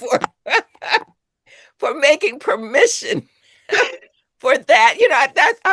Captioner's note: laughs